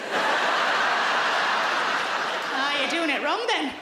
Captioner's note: audience laughs